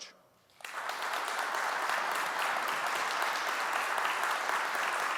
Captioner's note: audience applauding